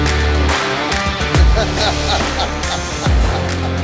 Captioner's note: laughter